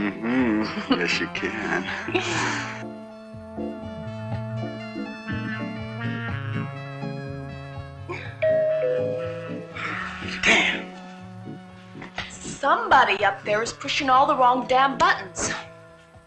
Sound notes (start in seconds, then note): 2.5 groovy music; 8.4 doorbell rings